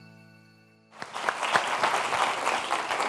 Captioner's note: audience clapping